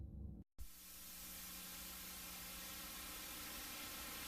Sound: VHS static

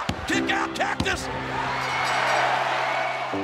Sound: bell dings

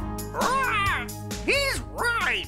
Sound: squawking

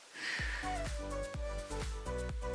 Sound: exhales

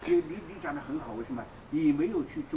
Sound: mandarin

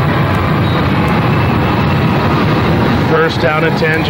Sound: crowd cheers

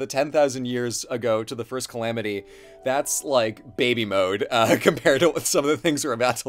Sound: laughs

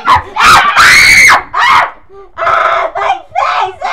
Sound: unholy screaming

